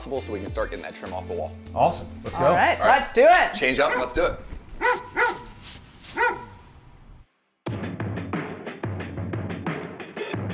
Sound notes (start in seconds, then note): 4.6 dog barking; 7.7 funky music